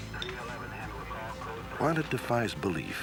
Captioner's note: police radio chatter